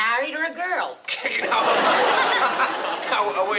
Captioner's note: laughter